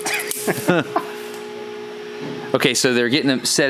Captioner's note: laughs loudly